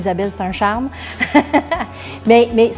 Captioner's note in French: rires